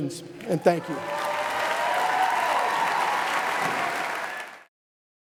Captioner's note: audience cheers